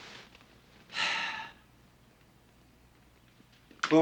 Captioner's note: sighs